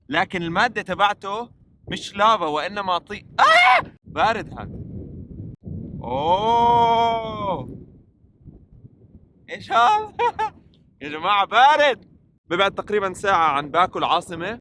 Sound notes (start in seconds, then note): 10.1 laughs